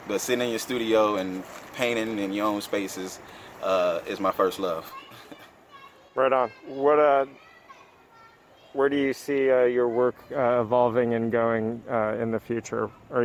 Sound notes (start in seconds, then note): 5.5 laughing